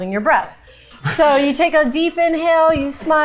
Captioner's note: chuckling; crew member chuckling